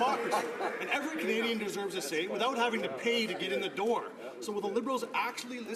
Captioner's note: some Applause